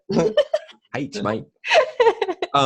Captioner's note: giggles